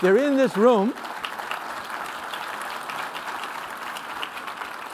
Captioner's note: applause